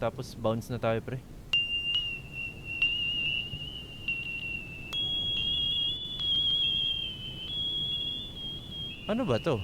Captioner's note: screechy, beeping noise